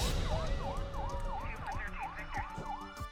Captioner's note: sirens wailing; dispatch radio